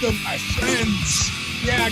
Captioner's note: hoarse voice